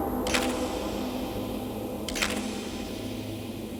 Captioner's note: ominous music; camera clicking